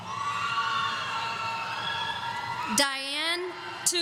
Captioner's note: audience cheering